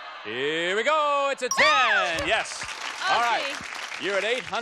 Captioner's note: applause